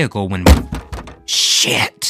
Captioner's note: banging